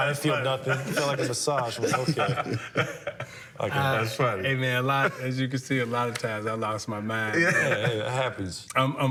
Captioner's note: laughter